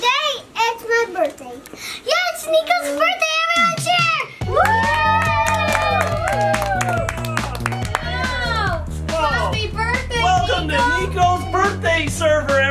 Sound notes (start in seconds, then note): 4.5 clapping